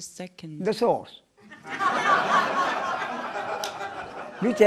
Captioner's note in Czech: smích